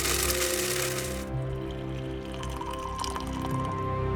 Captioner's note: coffee pours